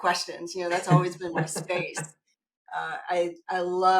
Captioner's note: laughing